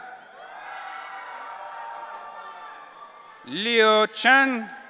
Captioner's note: audience cheering